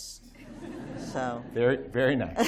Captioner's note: laughter